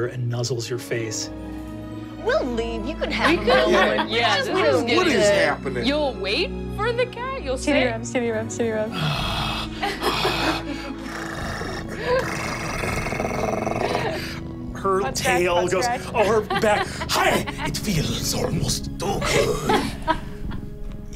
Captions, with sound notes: and nuzzles your face. - We'll leave, you can have him. - What is happening? - You'll wait for the cat? - Kitty rubs, kitty rubs, kitty rubs. (purring) - Cat tail goes over back. Hi, it feels almost too good. (laughing)